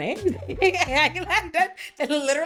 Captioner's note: laughs